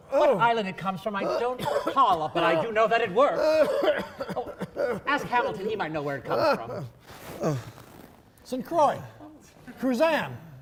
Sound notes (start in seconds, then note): 3.2 coughing